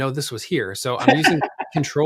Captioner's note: laughs